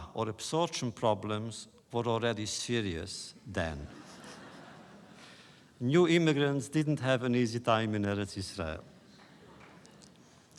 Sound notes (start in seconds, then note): 3.8 laughter